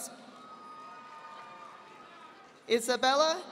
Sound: audience applauding

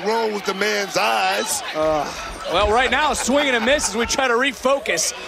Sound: laughter

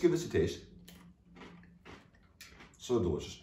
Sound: teeth crunching

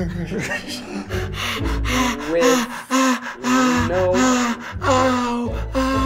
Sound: breathing heavily

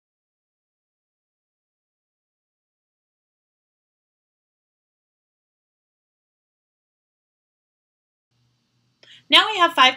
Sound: no sound playing during fast forward

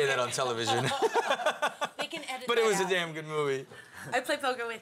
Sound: laugh

